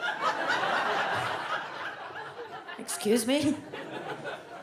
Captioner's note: audience laughs